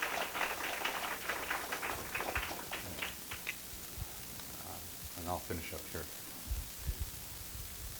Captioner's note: applause